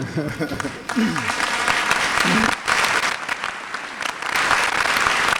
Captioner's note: laughter; applause